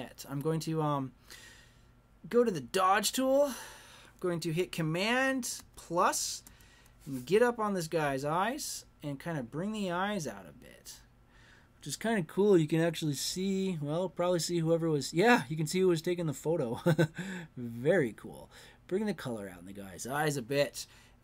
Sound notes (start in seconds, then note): 16.8 chuckles